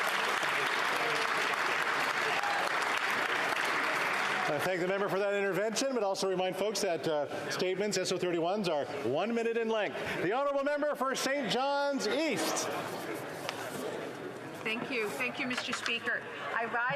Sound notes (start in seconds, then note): 5.3 some Applause